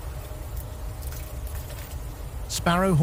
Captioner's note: birds chirping